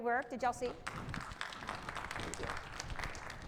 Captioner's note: participants applauding